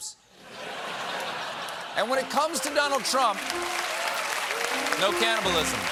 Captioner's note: laughter; applause